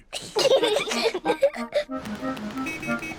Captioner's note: both giggling